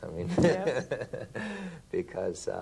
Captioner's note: laughter